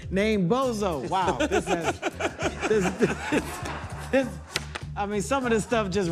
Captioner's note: laughs